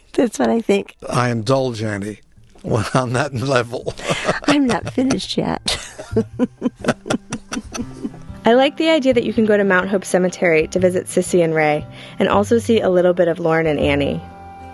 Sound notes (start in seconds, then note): 1.4 chuckles; 2.6 laughing